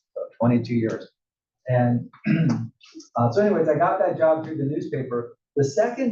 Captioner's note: cough